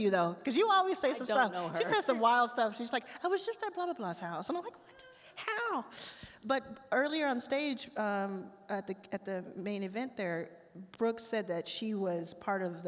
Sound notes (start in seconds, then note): none